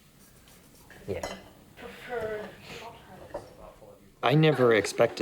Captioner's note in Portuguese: conversação indistinta